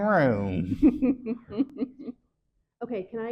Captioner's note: chuckles